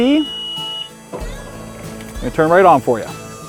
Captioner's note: boat beeping; engine rumbling